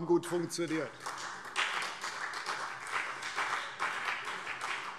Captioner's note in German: Beifall CDU und BÜNDNIS 90/DIE GRÜNEN